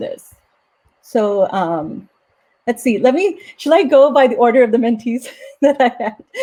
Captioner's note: laughs